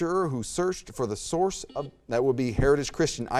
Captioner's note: buzzer beeps